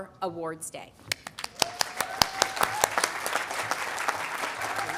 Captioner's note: audience applauding